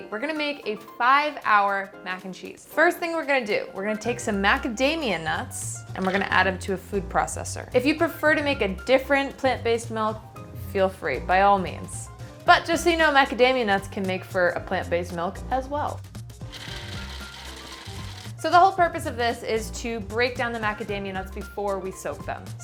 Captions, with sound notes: We're gonna make a five-hour mac and cheese. The first thing we're gonna do, we're gonna take some macadamia nuts, and we're gonna add them to a food processor. If you prefer to make a different plant-based milk, feel free, by all means. But just so you know, macadamia nuts can make for a plant-based milk as well. (blender whirring) So the whole purpose of this is to break down the macadamia nuts before we soak them.